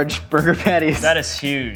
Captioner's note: laughing